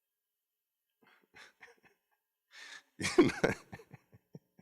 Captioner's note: laughs